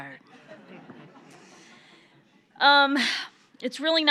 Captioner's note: audience laughs